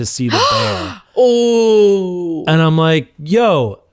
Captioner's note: gasps